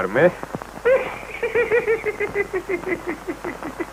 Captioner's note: giggling